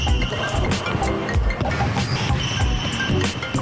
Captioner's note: phone ringing